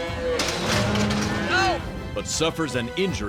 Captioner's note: bull grunts, gate shakes